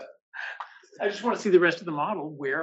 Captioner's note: laugh